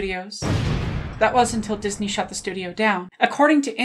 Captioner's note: explosion